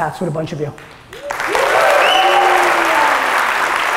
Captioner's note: audience applause